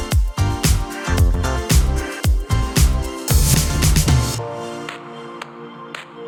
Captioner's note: none